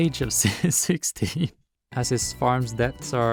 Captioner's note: laugh